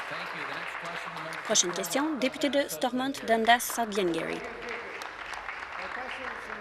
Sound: applause

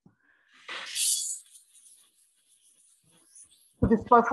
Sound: tattoo gun buzzing

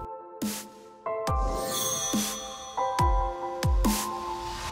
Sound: chime

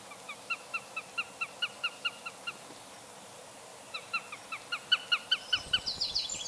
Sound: squawking

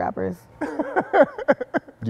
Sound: laughs

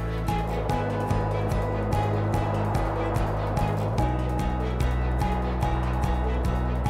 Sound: wind

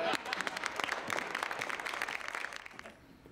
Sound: audience applause

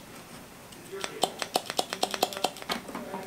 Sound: vigorous popping

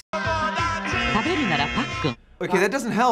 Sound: buzzer

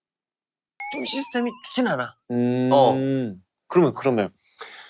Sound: comical sound effect

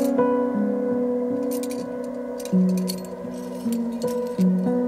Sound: calm piano music; metal rattling

